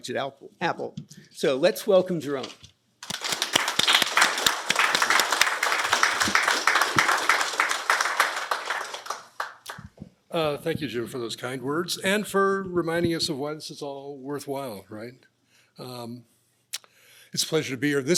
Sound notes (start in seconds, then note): 3.0 applause